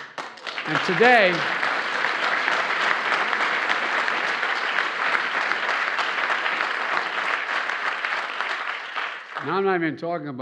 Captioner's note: applause